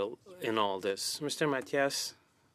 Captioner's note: speaking French